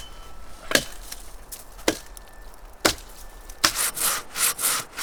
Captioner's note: speaking Chinese: English translation on screen; tapping; saw rasping